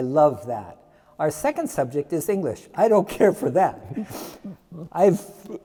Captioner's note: laughs